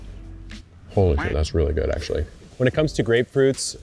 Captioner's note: duck quacking